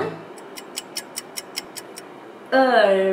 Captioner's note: clock ticking